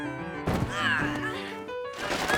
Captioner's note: Makoto yelling, screaming; groans in pain